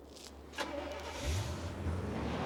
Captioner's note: car engine starts